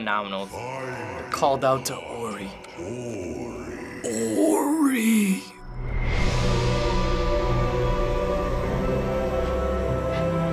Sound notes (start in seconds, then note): 0.3 in game: speaking foreign language; 4.1 deep voice; 5.8 unsettling music